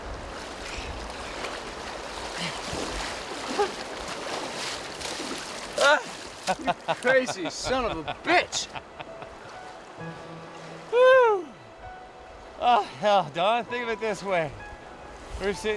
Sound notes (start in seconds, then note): 0.1 groaning; 6.5 laughing